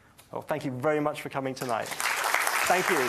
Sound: audience applauds

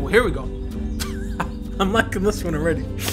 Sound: laughs

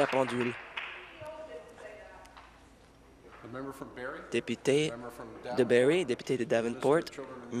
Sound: applause

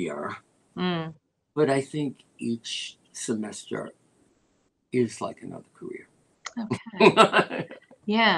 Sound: laughter

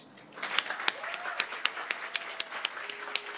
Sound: applause

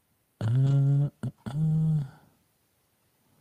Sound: hums

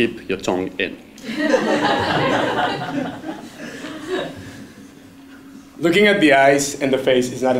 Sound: laugh

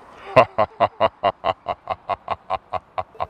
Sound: laughing

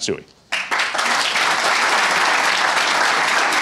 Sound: applause

